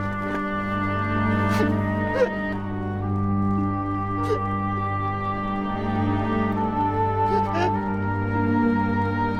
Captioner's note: crying, dramatic music